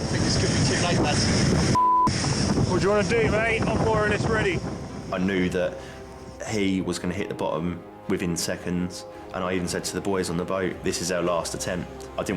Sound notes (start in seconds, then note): 1.7 beep